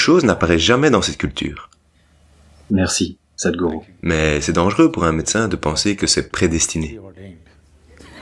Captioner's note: laughs